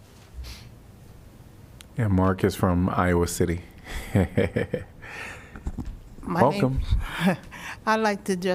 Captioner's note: laughter